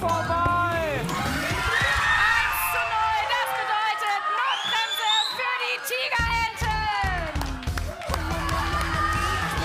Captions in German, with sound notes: vorbei. 1:0. Das bedeutet, Notbremse für die Tigerenten. (Jubel)